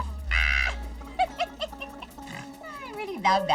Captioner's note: laughs